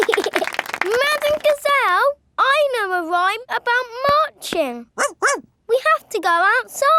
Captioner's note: laughing and clapping; barks